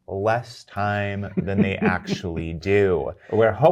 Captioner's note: guy chuckles